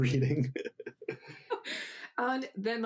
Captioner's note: laughs softly